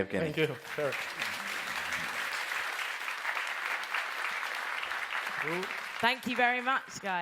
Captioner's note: applause